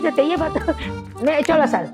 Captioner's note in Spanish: ríe